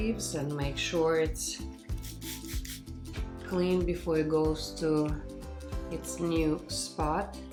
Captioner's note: sprays water